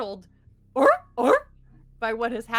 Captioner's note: seal barks